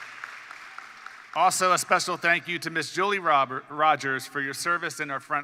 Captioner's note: applause